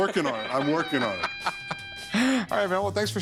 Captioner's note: Rick laughing